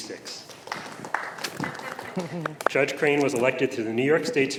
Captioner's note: applause